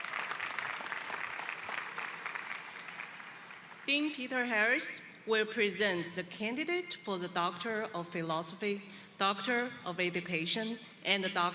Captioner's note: applause